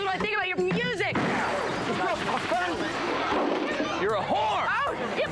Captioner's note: smashing